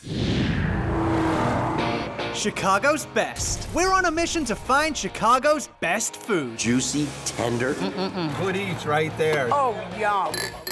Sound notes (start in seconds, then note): 0.1 racing engine